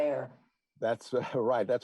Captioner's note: chuckle